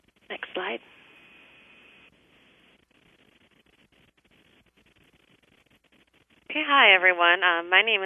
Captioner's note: pause